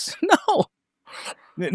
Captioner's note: laughs